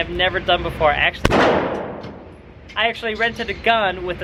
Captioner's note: gun shot fires